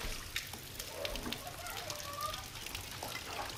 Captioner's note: chatter